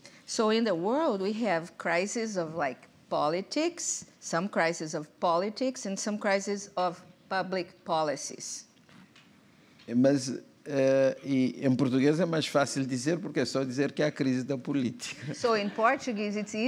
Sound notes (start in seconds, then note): 11.0 speaking portuguese